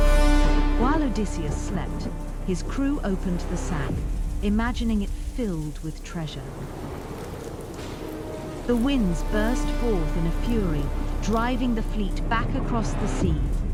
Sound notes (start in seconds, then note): 6.6 wind howling